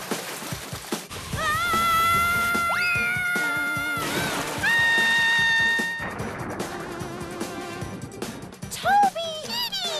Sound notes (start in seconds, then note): 1.4 screaming